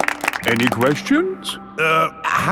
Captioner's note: all clapping